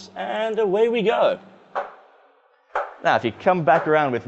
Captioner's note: background sounds like a very rhythmic, metallic chicken clucking